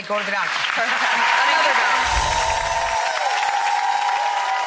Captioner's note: applause